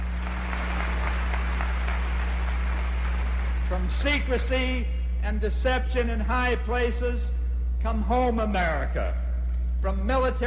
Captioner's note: applause